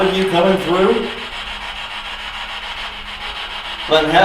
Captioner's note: static buzzing